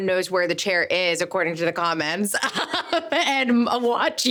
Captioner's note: laughing